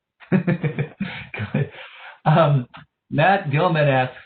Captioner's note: moderator laughing